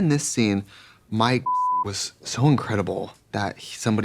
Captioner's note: beep